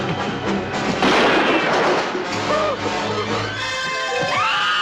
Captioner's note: gunshot - tense music; scream